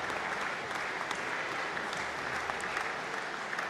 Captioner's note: applause